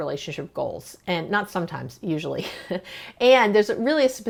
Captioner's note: chuckles